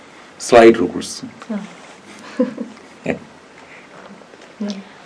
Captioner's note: laugh